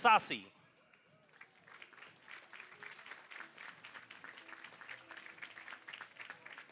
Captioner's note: applause